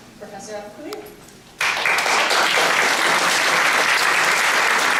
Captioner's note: applause